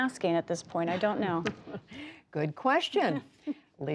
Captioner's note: laughter